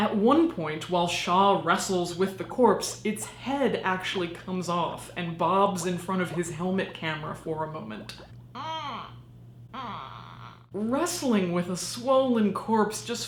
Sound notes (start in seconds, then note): 8.2 groans